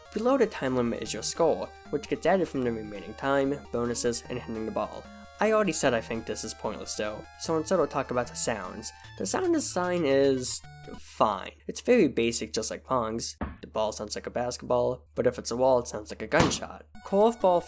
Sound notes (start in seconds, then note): 13.4 ball gets hit; 16.5 ball hits wall